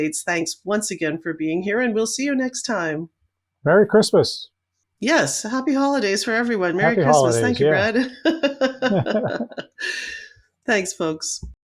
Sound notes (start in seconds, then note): 10.2 laughs